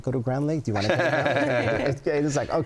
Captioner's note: laughing